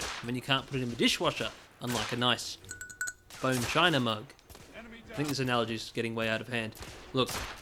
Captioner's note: taps mug